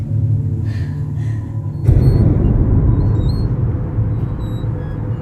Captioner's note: swing creaking